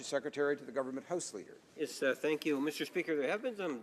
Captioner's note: speaking French